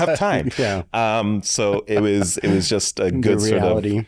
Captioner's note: chuckles